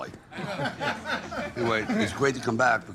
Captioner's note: everyone laughing